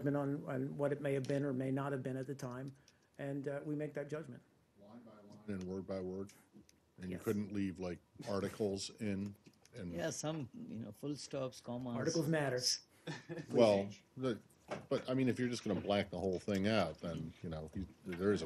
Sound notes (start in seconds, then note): 13.0 laughter